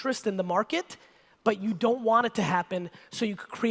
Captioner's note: none